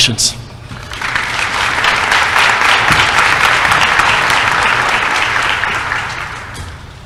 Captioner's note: applause